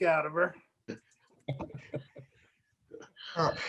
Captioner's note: laughter